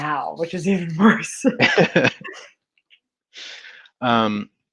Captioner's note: laughing